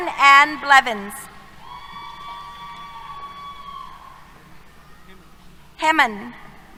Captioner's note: cheers